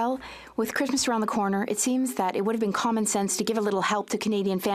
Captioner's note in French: voix de l'interprète